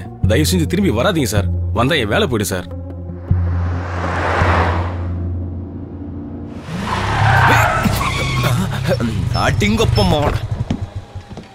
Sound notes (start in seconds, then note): 6.5 brakes squeak